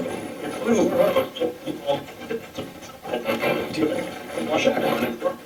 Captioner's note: static playback transmitting